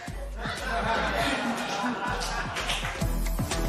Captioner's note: spectators laugh